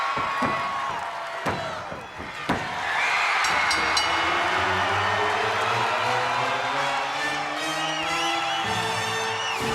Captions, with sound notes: One, two, three! (audience cheering) (bell rings) (dramatic music)